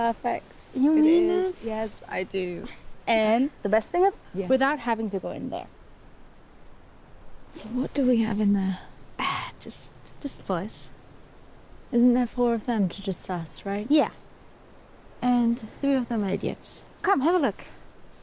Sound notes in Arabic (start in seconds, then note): 9.2 زفير